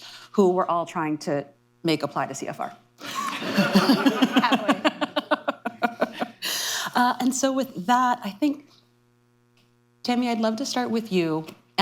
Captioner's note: laughter